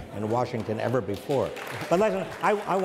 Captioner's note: audience applauds